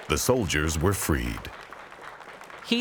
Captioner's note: group applauding